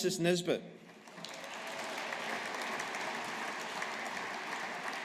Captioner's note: audience applauding